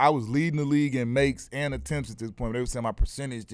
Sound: none

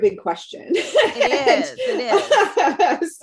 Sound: chuckle

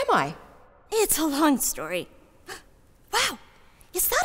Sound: gasp

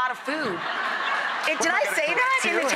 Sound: audience laughing

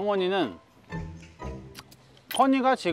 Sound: smacking his lips

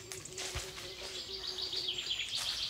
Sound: birdsong

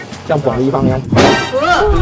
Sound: boom!

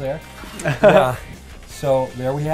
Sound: laughing

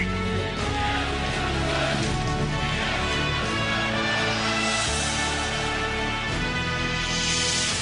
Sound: crowd shouted

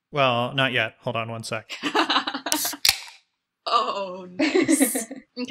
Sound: laugh; sound of beer can popping open

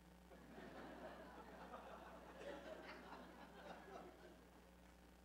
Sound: laughter

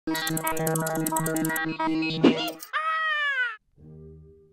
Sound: robotic sounds

